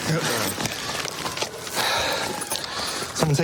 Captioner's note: sirens blaring